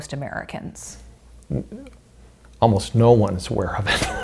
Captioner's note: laughs